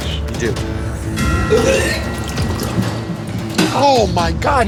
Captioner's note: vomits